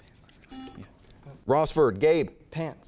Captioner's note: buzzer chimes